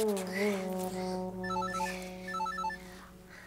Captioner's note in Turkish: Telefon zili sesi